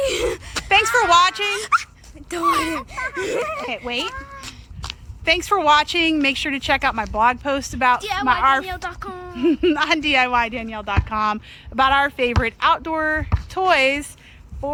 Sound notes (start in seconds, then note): 10.2 laughs